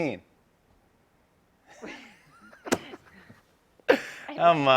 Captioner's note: both laugh